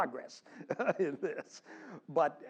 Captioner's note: laugh